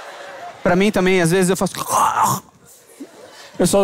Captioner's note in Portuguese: engasgo